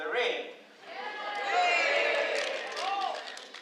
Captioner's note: cheers